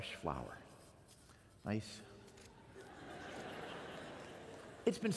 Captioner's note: laughter